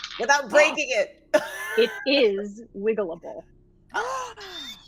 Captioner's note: gasps